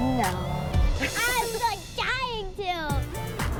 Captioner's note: laughs